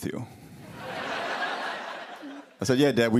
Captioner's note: laughter